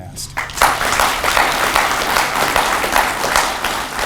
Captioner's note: audience applauds